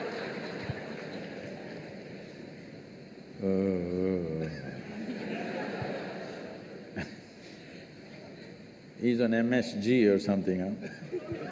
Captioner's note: laughter; laughs; cheers/Applause